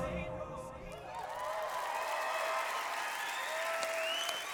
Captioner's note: audience cheering